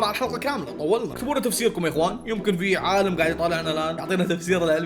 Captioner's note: sarcastically